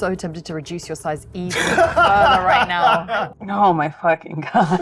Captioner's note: laughs